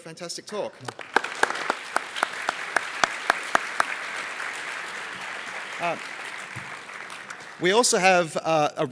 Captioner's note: applause